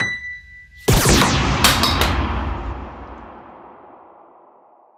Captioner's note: bell chiming; lasers beaming